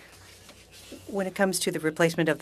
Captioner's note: speaking french